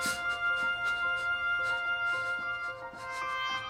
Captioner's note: Bailey sobbing